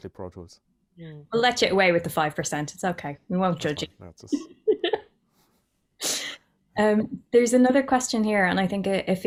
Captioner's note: laughter